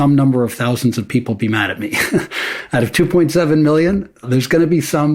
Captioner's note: chuckles